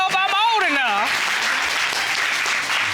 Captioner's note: audience applauding